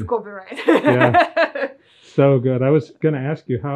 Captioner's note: laughing